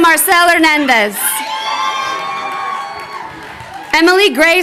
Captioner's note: crowd cheering